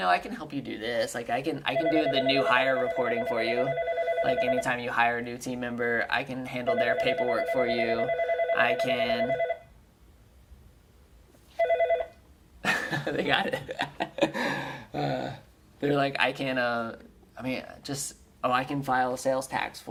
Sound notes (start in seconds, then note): 9.4 phone ringing; 14.7 laughing